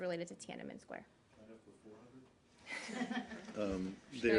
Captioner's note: laughter